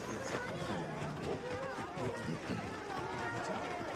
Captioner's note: children chattering